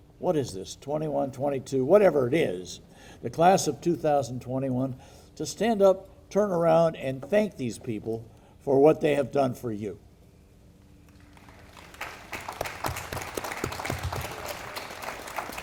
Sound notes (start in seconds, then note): 11.1 audience applauding